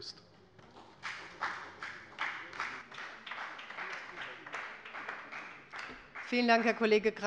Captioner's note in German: Beifall bei der FDP und bei Abgeordneten der SPD